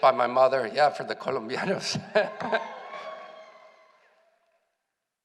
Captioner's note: laughs